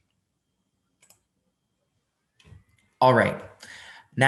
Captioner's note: mouse clicking